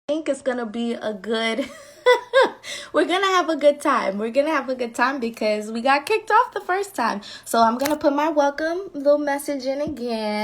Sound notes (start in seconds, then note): 1.6 laughing